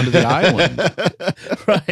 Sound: laughter

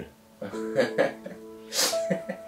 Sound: laughing

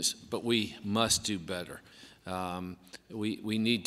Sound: none

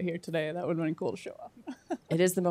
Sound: chuckles

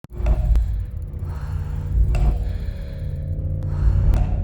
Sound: clock ticking; steady breathing

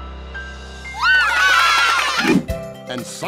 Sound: cheering

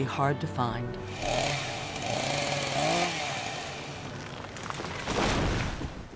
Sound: chainsaw noises and trees falling

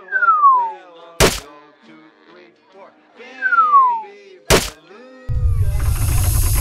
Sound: ball hits, triggering the cat

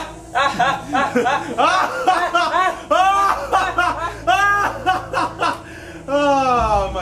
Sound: Snydley joins in and they laugh together; Tyrus laughs evilly

